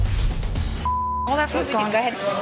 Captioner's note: beep